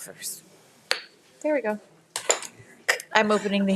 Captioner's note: gavel thumping